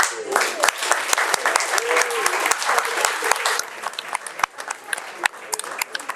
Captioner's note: audience applauding and cheering